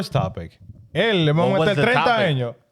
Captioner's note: speaking In Foreign Language